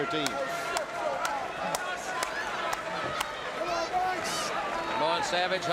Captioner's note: crowd cheering